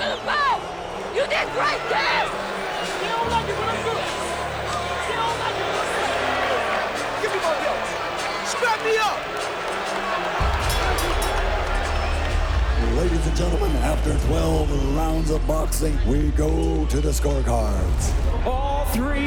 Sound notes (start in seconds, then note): 10.5 bell dings